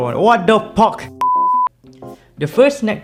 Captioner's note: beep